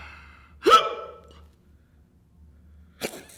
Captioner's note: hiccups